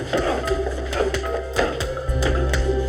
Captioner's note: grunting